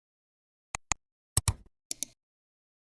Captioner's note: 3 different clicks